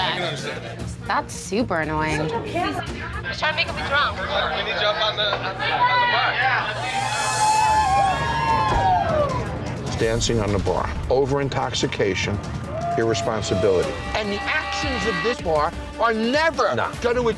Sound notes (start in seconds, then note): 5.5 cheering